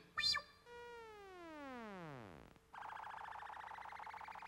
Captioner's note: beeps